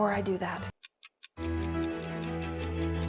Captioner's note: clock ticking; dramatic music